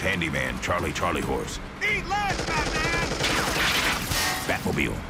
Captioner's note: rapid gunfire